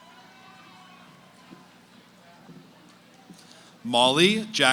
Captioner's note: cheering; background conversations